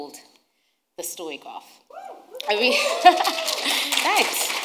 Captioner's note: audience cheering